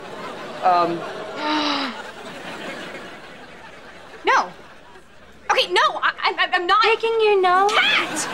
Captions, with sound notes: Um. [gasping] No. Okay, no. I-I-I'm not... - Picking your nose? - Cat!